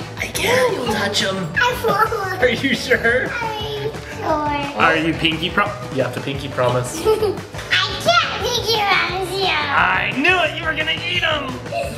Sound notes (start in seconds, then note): 6.9 giggling